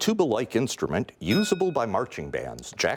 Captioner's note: bell rings